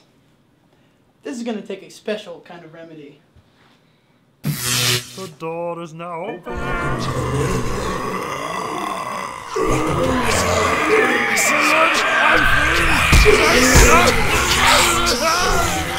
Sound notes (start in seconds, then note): 6.4 Demonic voices and monster noises; 14.7 cries